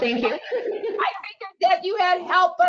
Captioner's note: laughs